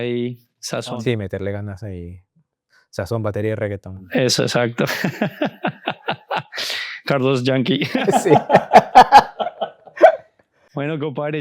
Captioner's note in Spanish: risas